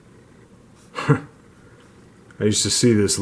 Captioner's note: chuckle